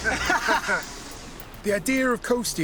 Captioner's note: both laughing